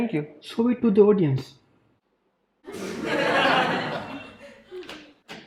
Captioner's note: audience laughing